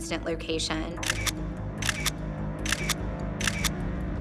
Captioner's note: camera shutter snapping